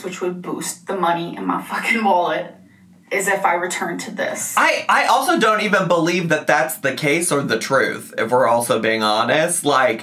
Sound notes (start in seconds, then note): none